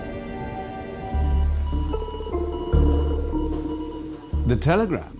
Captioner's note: telegraph beeping